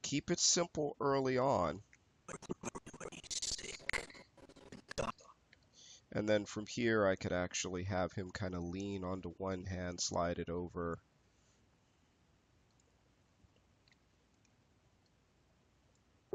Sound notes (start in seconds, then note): 2.3 audio skipping